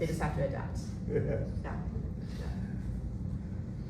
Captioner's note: laughing